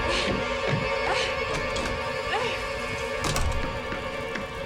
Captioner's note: Jill grunting